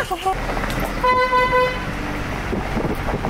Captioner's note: car horn